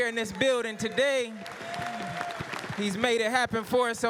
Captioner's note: applause